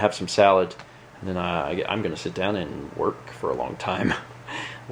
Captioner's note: chuckles